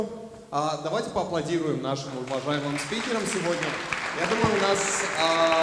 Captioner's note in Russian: аплодисменты